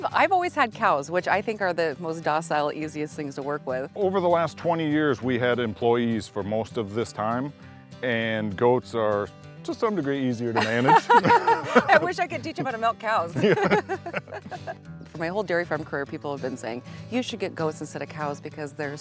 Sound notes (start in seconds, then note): 10.6 laughing